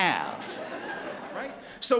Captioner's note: laughter